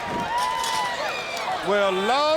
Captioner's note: crowd cheering